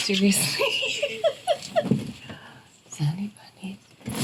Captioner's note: laughs